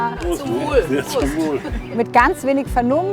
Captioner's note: several cheers!